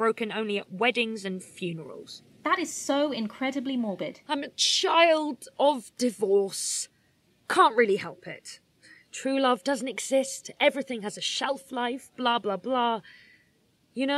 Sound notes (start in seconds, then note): 4.5 dramatically